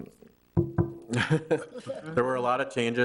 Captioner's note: knocks on the desk; chuckles